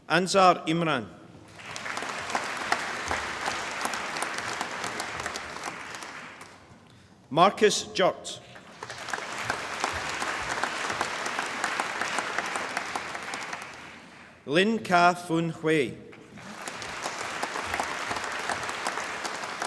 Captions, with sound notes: Anzar Imran (APPLAUSE) Markus Jurt (APPLAUSE) Lin Kah Fun Hueye (APPLAUSE)